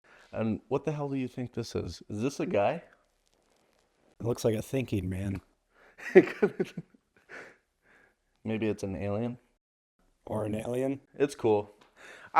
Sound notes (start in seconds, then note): 6.0 giggling